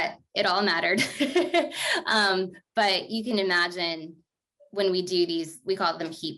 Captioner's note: laughter